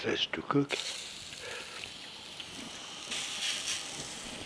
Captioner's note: pan sizzling